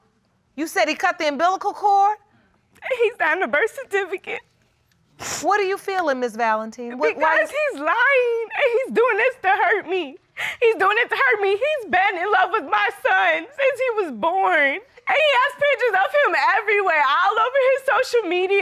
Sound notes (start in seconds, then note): 2.8 crying